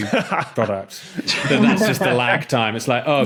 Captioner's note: laughs